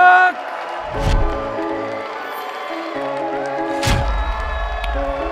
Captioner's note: cheering and applause